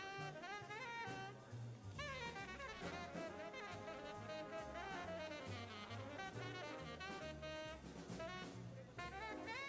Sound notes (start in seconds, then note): 0.0 people chattering; 0.0 upbeat jazz music continues